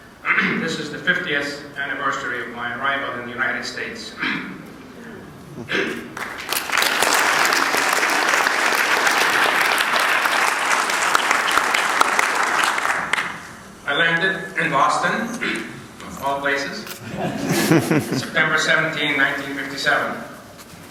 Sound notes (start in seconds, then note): 6.1 applause